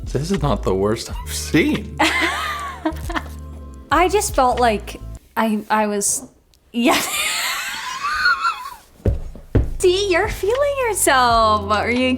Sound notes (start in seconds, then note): 1.6 laughs; 6.9 laughs